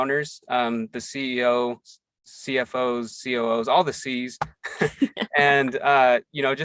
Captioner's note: both laugh